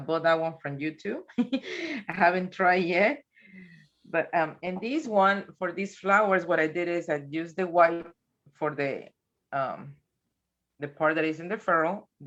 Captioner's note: chuckles